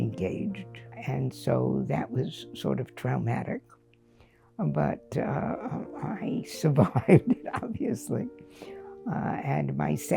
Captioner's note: laughter